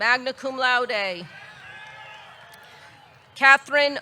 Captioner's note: audience cheering